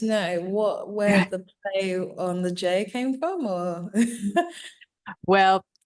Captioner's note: chuckling